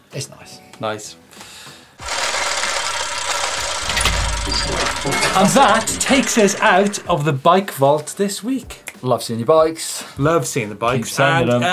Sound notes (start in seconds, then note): 2.0 gears turning